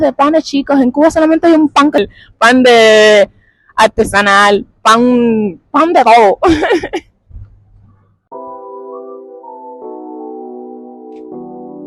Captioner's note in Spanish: risas